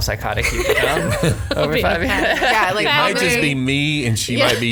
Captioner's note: laughing